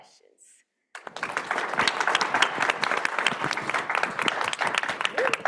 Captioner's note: everyone clapping